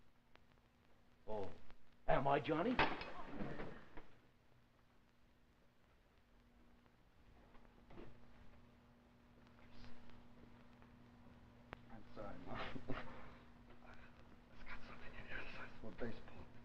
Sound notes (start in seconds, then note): 2.6 sound of hands slamming on table, murmuring; 12.6 coughs; 14.4 Dover mumbles